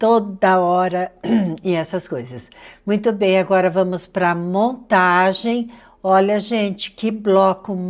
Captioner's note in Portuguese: limpando a garganta